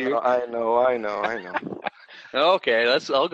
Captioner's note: laughter